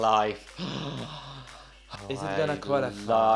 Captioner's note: groaning